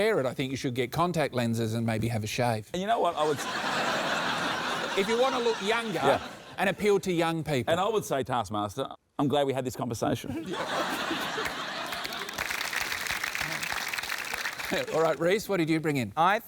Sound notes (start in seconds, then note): 3.2 laughter; 10.3 laughter; 11.3 applause